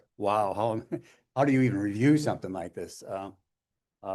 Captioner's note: laughter